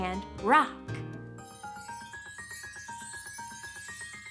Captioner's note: chimes ring